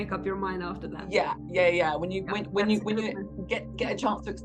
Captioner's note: faintly speaks